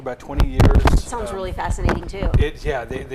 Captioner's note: microphone rumbling